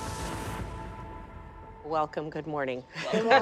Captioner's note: laughs